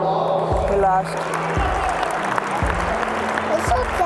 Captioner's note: clapping